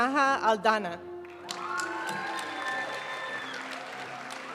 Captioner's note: audience cheering and applauding; graduation music